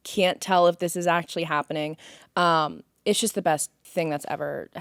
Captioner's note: none